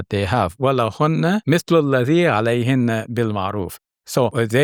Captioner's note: speaking in foreign language